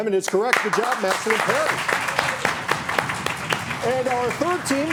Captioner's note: audience clapping